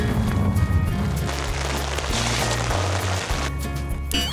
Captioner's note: raining